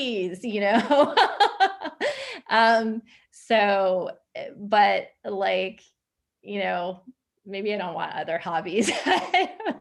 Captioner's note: laughs